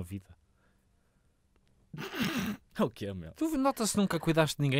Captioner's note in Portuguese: risos